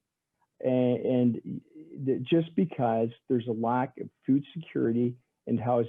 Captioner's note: stammering